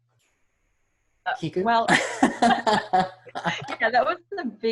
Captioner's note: laughs